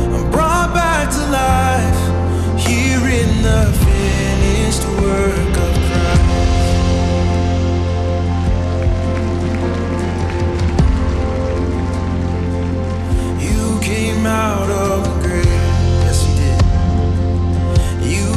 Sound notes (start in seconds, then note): 8.5 audience applauding